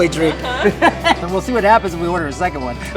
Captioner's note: laughing